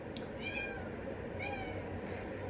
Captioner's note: meow... meow